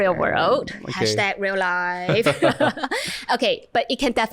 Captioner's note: laughter